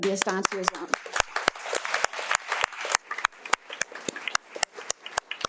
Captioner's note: attendees applaud